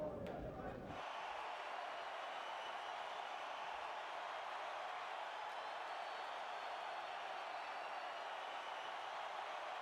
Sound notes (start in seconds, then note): 1.2 crowd cheering